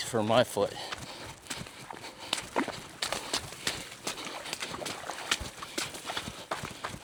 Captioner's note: footsteps crunching